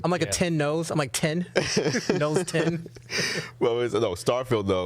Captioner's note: laughing